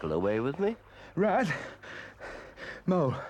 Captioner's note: breathes heavily